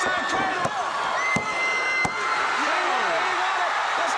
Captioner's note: crowd cheering